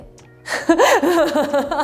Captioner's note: laughs